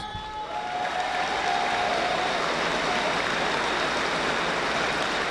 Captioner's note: audience applauding